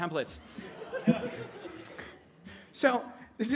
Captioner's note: audience laughing